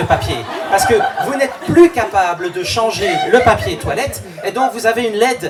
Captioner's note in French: rires